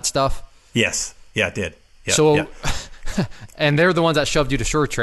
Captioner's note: snarky laugh